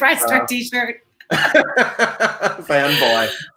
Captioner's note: both laugh